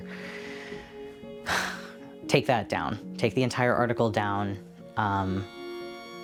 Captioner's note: sighs